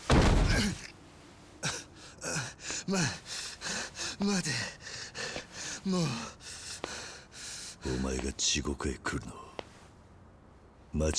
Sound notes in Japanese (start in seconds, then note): 3.5 荒い息